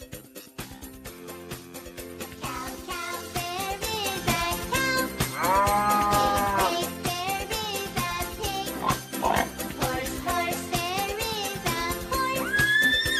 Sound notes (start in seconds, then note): 5.3 cow lowing; 8.7 pig grunts